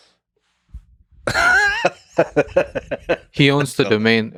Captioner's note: Lex laughing